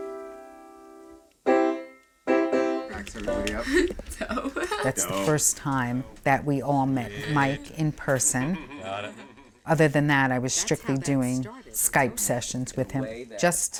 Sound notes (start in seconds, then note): 2.9 laughing